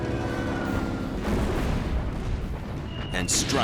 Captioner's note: explosion